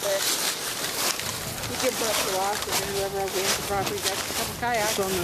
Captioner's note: indistinct chatter